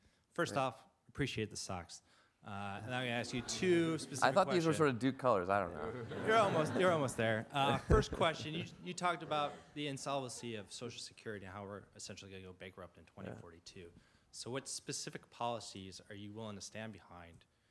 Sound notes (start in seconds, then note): 3.1 audience laughs; 5.8 everyone laughs